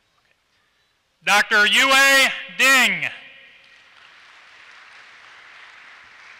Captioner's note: applause